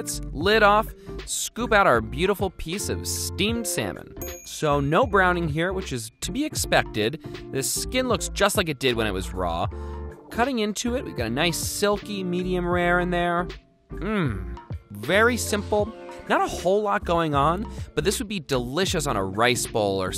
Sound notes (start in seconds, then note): 4.2 bell dings